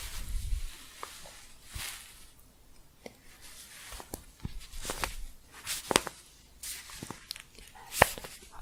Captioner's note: staticky shuffling and crinkling